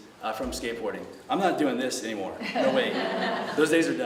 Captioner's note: laughter